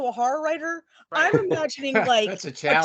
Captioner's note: laughing